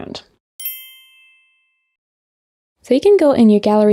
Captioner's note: bell dings